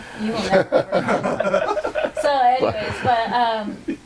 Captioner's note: all laughing